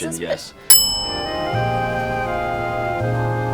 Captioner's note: bell dings; romantic music